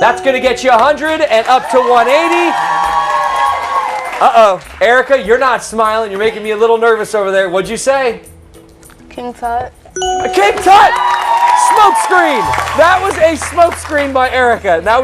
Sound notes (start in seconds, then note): 1.3 cheers and applause; 10.4 cheers and applause